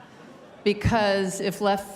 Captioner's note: laughter